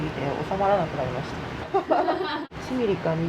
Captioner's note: laughs